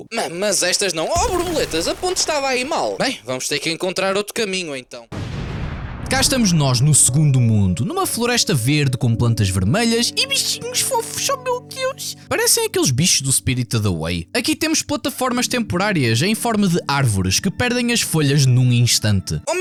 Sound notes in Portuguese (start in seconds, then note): 5.1 boom